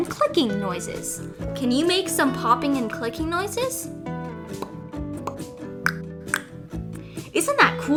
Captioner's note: pop pop click click